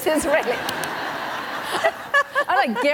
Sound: laughter

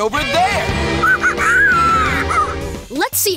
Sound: monkey noises

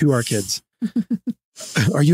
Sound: laughing

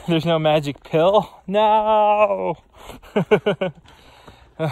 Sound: laughs

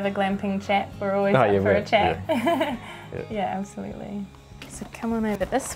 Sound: laughs

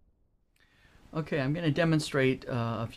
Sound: voiceover

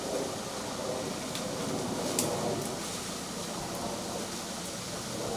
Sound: plane flying overhead

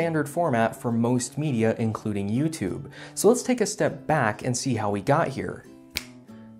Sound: snap

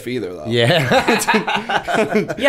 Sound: laughter

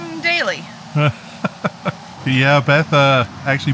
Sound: laughing

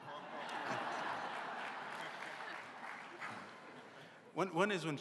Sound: laughter

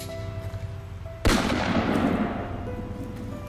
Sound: bang

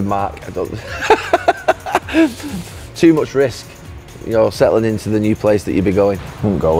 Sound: laughs

